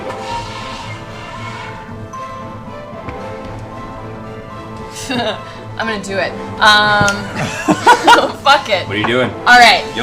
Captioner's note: laughs